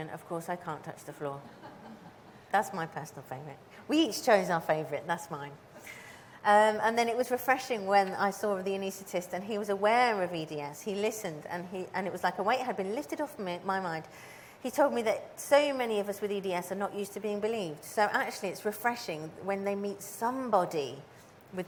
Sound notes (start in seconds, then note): 1.5 audience chuckles